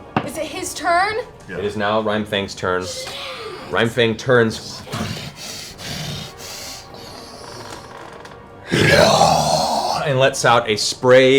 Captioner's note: heavy breaths, roars